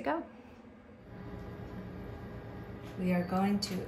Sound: machine running

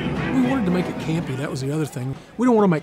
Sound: voiceover

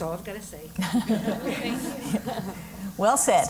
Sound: laugh

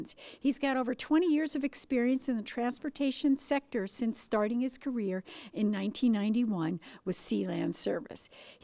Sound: none

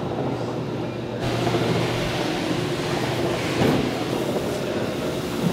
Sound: machinery whirring

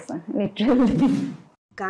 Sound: chuckles

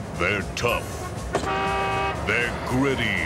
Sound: horn honks

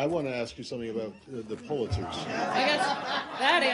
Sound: laughter

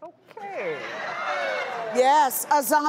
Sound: crowd jeers

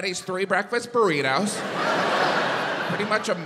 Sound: audience laughs

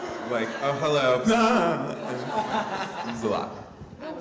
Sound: sobs loudly

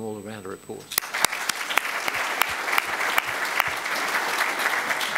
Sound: applause

